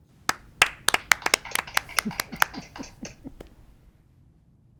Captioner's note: group applauding